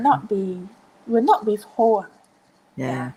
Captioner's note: speaking in foreign language